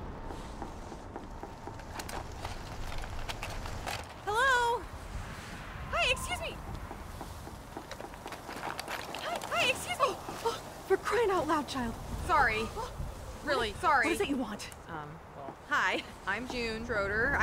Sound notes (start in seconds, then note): 10.4 gasps